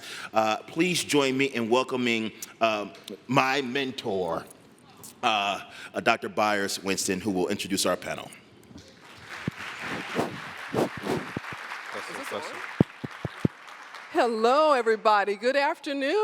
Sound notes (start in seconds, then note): 8.9 applause